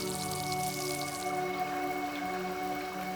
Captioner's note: showerhead spraying